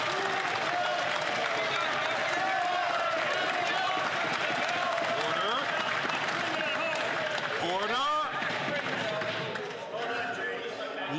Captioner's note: some Applause